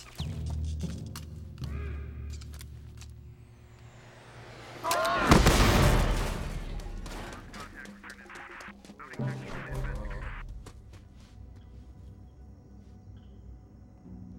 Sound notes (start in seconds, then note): 1.6 grunt; 6.8 voice on radio